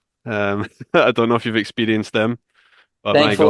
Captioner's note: chuckles